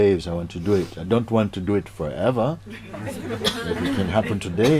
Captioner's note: laughter